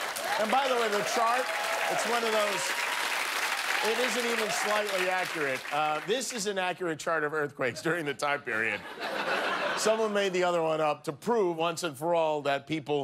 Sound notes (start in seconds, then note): 6.1 cheers and applause